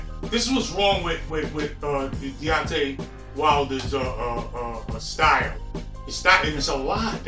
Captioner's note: stutters